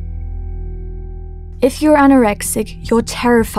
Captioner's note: heartbeat